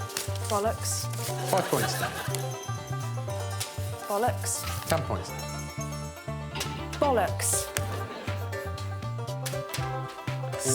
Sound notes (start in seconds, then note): 1.1 blows whistle; 1.3 audience laughing; 2.1 upbeat music